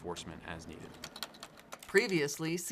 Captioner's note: sounds of a computer keyboard typing